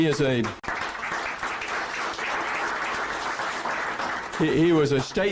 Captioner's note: applause